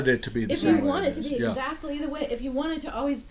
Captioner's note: voiceover